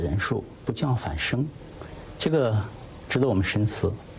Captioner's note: speaking in a non-english language